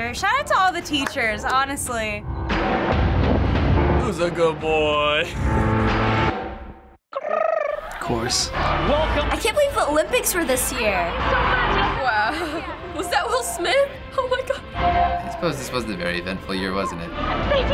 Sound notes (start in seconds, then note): 7.1 tongue trilling; 7.2 chuckles